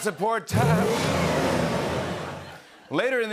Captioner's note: engine revs, tires screech